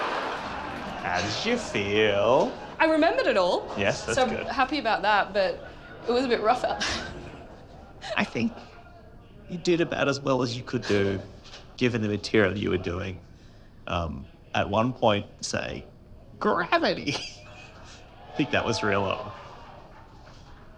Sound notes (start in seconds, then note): 0.1 laughter; 7.8 laughs